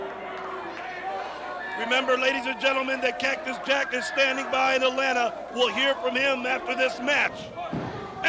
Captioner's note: crowd cheering